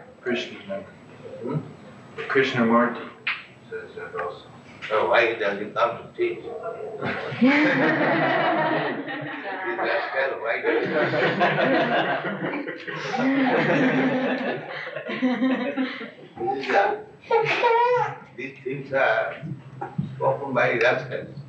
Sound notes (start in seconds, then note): 10.4 laughter